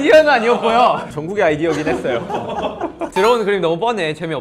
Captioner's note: hehehe